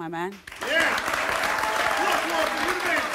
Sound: applause

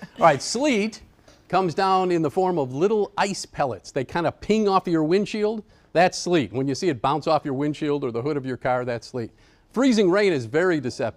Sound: laughter

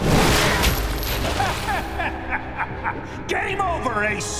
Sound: laughing

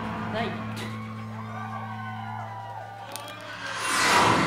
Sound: speaking in foreign language; crowd cheering

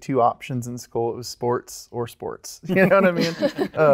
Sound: laughs

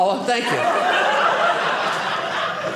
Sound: audience laughing

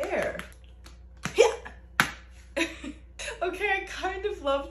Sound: chuckles

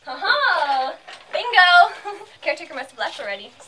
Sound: chuckles

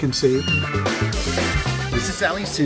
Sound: meow

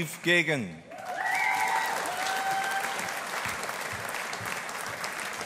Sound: audience applauding

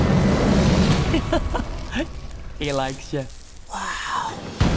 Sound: laughs

